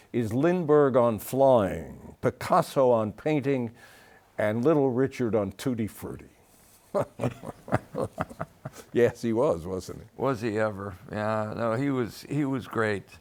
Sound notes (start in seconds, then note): 6.9 both laughing